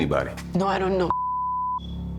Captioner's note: beep